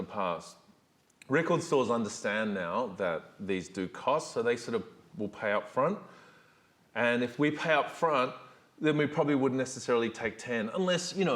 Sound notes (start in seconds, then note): none